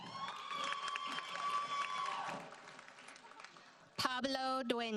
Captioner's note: audience cheers and applauds